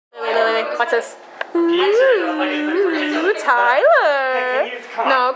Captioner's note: mocking sounds